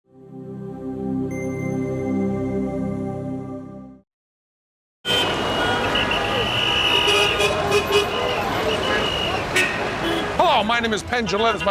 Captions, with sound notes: [chime] [traffic noise] Hello, my name is Penn Jillette.